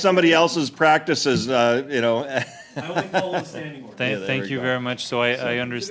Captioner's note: laughter